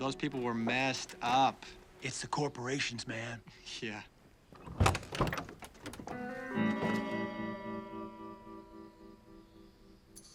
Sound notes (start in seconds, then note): 4.5 door opens; 6.1 playful music